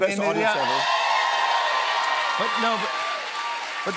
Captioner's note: cheers and applause